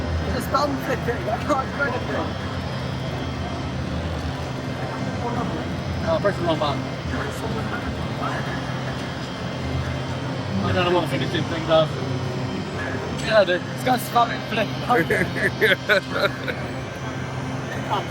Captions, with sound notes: Just bounce it, you can't do anything. (Crowd Chattering) I don't know what I'm gonna do. (Laughing)